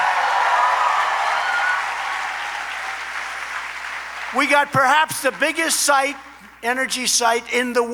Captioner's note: applause